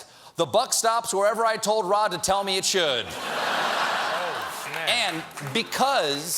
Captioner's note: laughter